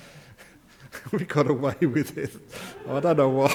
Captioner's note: audience laugh